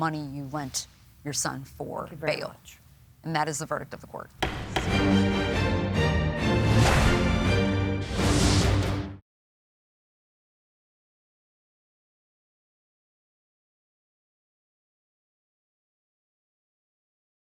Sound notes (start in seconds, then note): 4.4 gavel pounds; 4.4 dramatic music playing